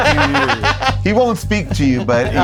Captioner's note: laughs